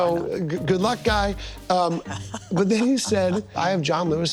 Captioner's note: laughing